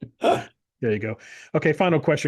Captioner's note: laugh